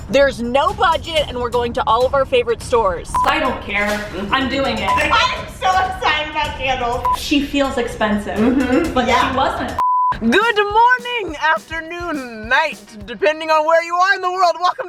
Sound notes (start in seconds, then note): 3.1 beeping; 7.0 beeping; 9.8 beeping